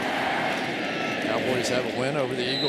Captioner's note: crowd chanting